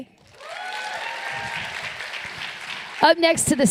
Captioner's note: applause